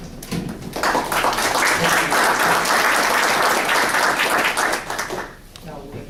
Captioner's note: applause